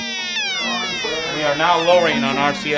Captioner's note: alarm blaring